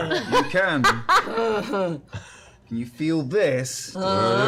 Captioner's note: affirmative grunt